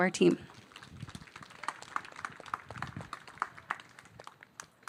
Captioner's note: audience applauding